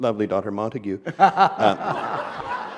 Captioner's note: laughter